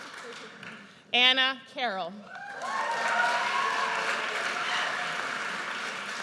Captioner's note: audience cheers